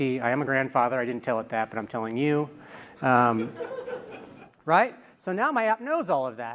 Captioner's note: laughter